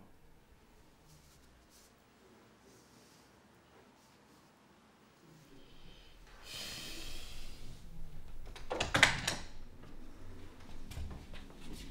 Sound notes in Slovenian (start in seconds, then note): 8.4 odpiranje vrat